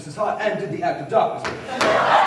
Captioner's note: laughter